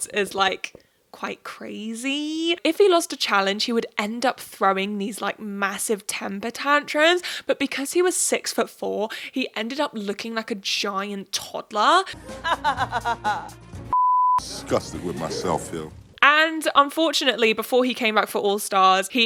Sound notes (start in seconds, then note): 12.1 laughs; 13.9 beep